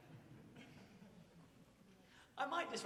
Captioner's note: audience chuckles